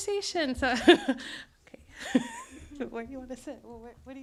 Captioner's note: laughs